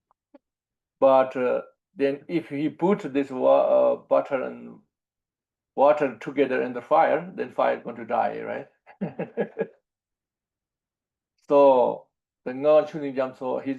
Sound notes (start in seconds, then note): 8.9 laughs